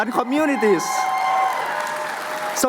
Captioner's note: cheering